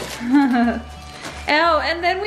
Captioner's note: laughs